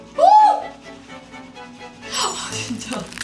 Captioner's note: scrubbing